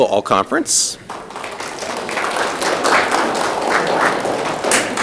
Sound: audience clapping

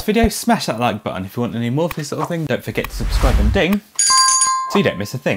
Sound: bell ring

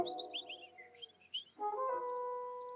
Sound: birds tweeting

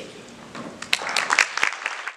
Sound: audience applause

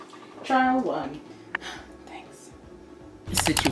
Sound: sighs; whispers; "situation" audio and double mouse click

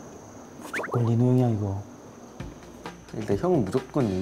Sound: whispering

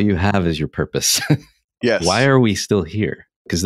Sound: laughing

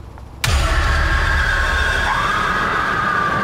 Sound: Sarah screams

